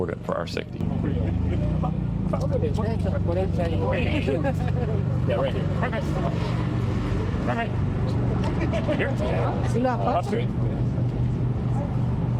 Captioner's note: background conversations